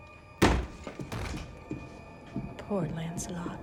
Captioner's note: door thuds